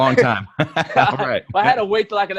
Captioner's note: both laugh